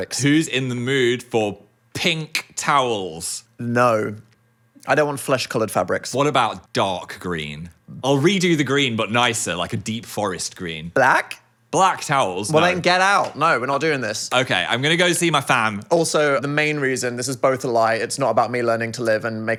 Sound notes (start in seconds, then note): none